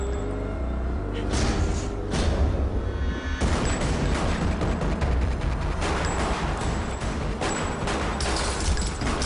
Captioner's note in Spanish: Disparos; Estruendo de vidrios